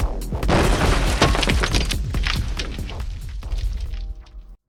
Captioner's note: bomb banging